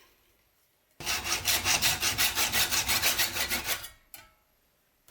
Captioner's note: sawing